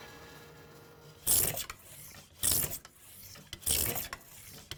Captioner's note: plane scraping